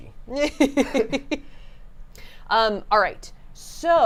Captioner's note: laughing